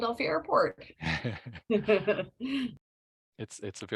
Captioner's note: laughter